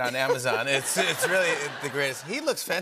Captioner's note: laughter